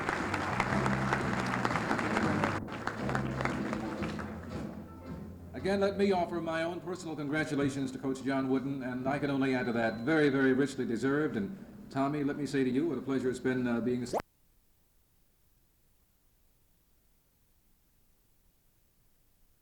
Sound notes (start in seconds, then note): 13.9 camera noise; 14.3 no audio